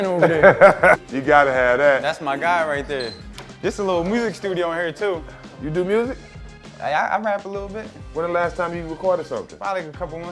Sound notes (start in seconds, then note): 0.0 laughing